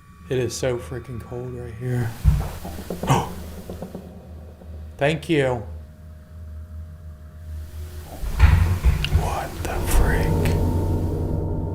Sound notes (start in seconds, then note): 2.2 bang; 8.1 loud bang